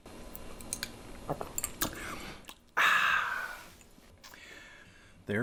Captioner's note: gulping liquid, sigh of satisfaction